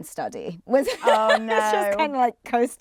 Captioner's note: laughs